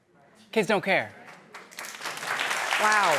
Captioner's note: applause